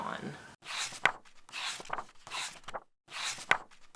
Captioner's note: pages turning